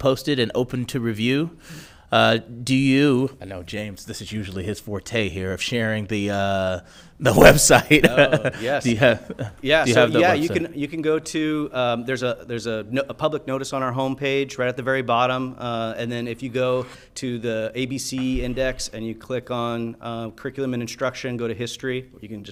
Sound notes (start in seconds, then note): 7.4 laughs